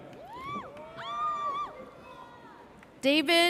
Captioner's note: audience cheers